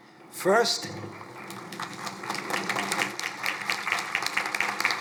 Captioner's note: crowd applauding